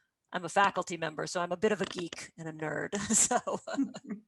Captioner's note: laughs